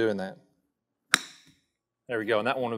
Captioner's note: golf ball thumps